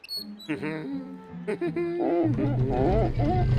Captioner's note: wheelbarrow squeaks; laughing; pumpkin squeaks